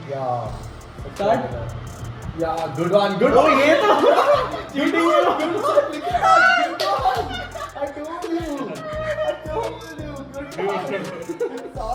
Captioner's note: fun and laughter